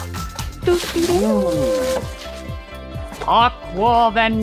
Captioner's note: imitates fanfare